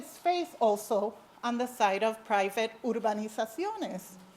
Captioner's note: speak foreign language